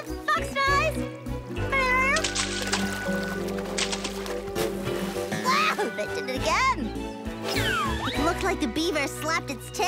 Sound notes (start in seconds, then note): 1.8 water splashing